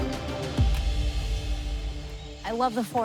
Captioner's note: laughs